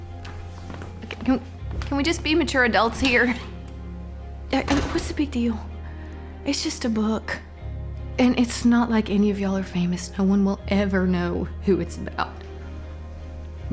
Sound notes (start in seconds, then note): 4.6 door shuts